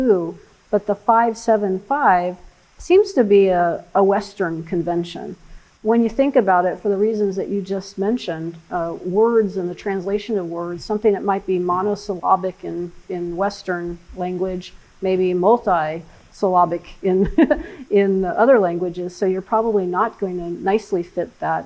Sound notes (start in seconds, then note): 17.2 laughs